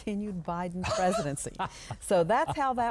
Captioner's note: laughs